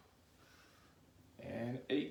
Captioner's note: breaths heavily